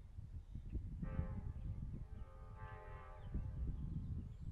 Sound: train horn

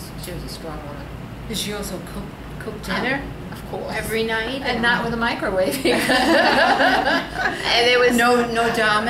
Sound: all laugh

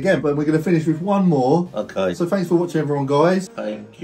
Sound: none

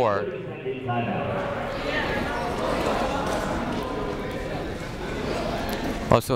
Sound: people talking in the crowd

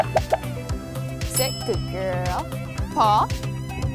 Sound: bell dings

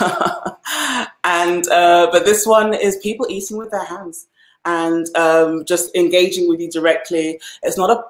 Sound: laughs

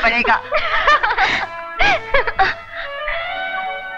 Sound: laughs

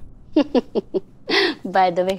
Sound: laughter

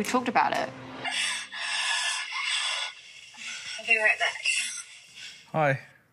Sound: moaning

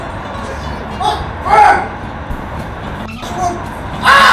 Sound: wailing

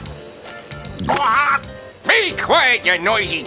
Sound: squawks

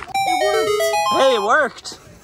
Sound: video game discovery sound

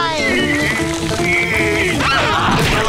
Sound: groaning; screaming

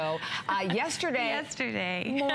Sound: laughter

